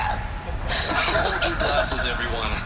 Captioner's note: laughter